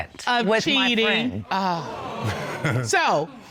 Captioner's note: audience exclaiming